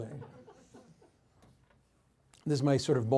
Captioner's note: audience laughs